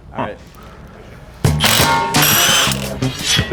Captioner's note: power drill buzzes